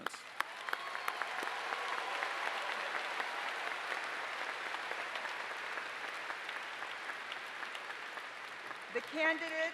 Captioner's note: applause